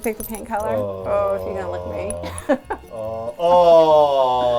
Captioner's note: laughs